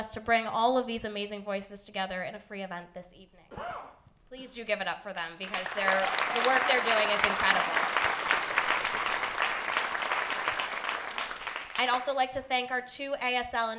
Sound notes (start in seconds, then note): 8.2 applause